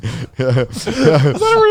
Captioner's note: laughing